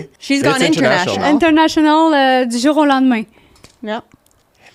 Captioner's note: in french